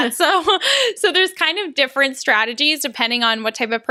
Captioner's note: laughs